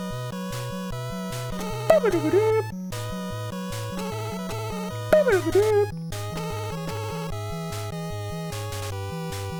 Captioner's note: hums along to BGM